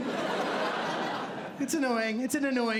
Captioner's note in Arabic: ضحك